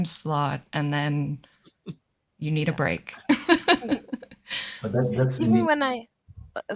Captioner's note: laughter